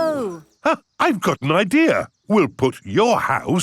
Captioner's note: gasps